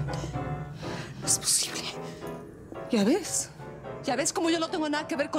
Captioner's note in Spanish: piano; respiración alterada